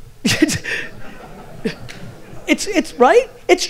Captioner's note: audience laughter